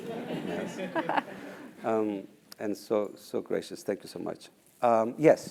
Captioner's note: laugh